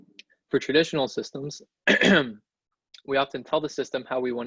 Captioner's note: clears throat